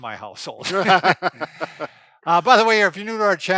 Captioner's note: laughing